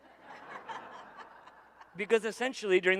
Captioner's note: audience laughing